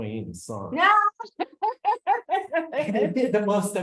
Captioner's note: laughs